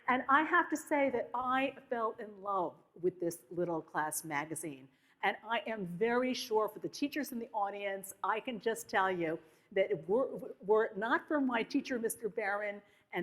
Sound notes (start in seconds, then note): none